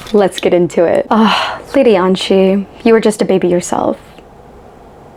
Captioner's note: sigh